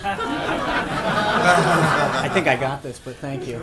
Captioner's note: laughter